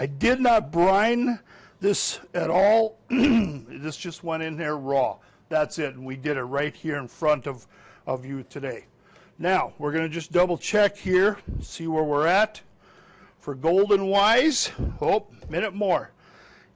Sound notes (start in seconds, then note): 3.1 clears throat